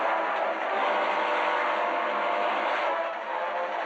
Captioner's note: train horn blaring